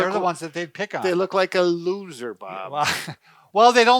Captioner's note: laughs